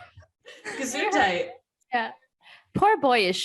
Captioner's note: laughter